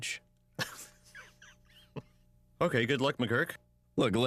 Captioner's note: laughs